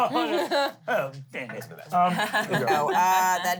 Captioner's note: laughs; laughs